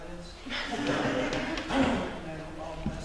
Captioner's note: audience laughter